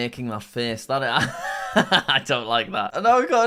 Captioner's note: laughing